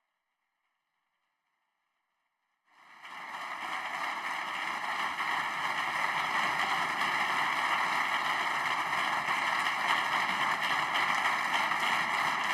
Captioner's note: applause